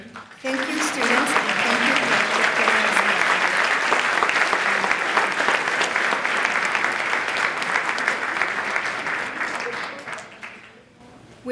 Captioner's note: applause